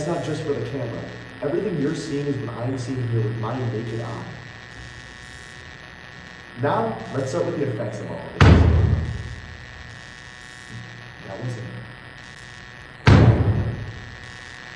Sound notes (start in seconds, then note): 8.4 loud bang